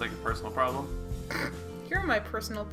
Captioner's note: chortle